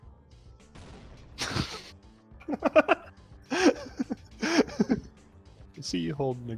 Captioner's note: laughs